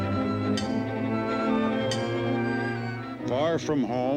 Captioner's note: orchestral music; hammer clanking